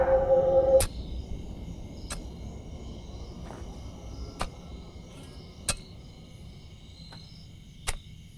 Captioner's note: the wind stops abruptly